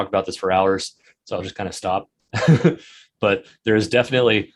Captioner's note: chuckles